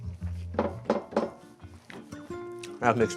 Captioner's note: gentle music; table thumps